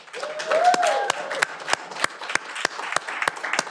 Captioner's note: cheering